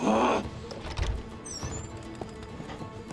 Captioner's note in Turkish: Bağırma sesi; Kapı açılma sesi